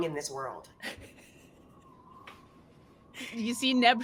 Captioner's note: laughs faintly